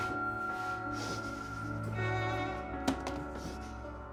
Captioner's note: Mark crying